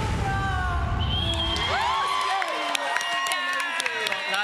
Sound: audience cheering

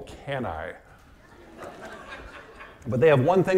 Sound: audience laughing

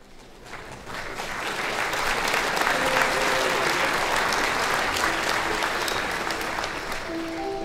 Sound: applause

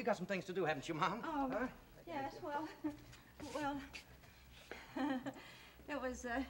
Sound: nervous laughter

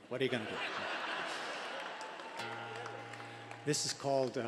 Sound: audience laughter

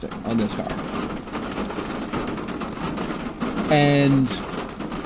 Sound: loud Rain Noises; more loud rain noises

